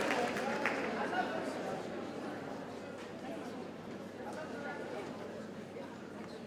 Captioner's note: attendees chatter indistinctly